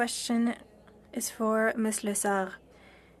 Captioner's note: speaking French